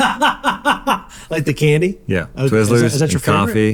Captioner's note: laughs